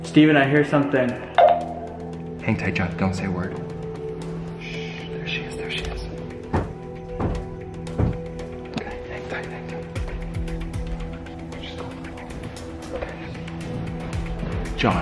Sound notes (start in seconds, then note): 1.4 beep; 7.7 heavy footsteps